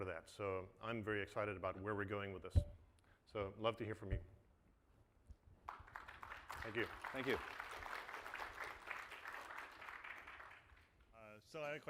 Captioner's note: applause